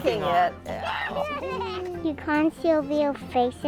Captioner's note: laughing